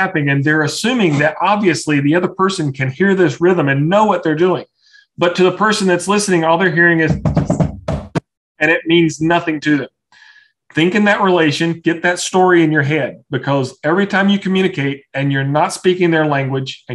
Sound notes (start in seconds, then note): 7.0 tap - tap - tap